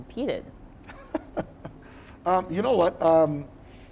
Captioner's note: chuckling